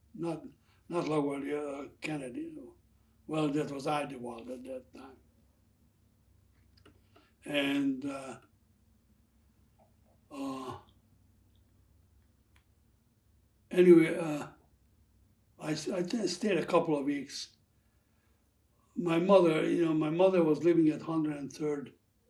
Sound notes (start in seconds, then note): 6.2 pauses 6 seconds